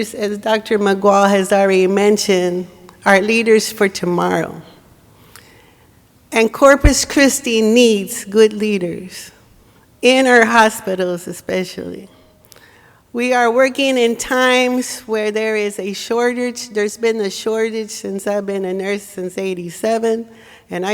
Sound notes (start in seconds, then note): none